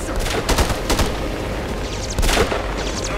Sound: guns firing; radio chattering

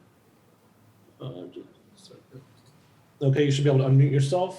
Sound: faintly speaking

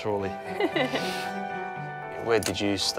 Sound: laughing

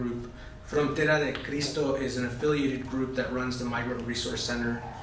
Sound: spanish

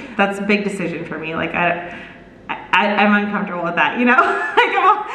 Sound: laughs

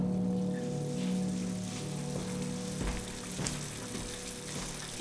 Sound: running water

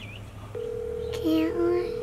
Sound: ringing

